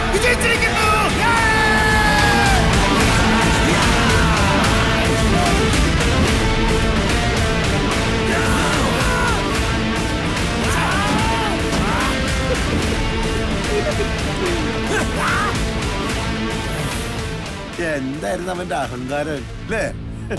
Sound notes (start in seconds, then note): 1.6 crowd Cheering